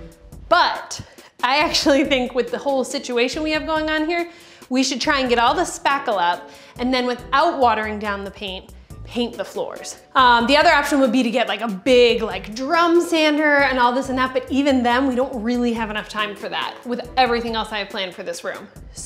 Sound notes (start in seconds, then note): none